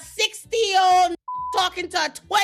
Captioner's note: beep